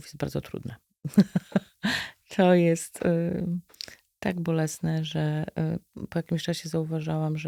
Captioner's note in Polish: śmiech